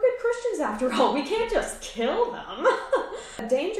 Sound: laughs

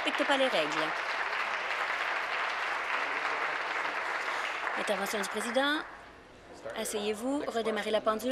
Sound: applause

